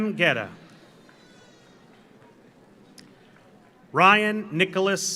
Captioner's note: audience applauds; audience cheers